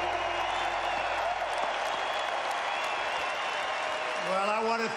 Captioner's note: applause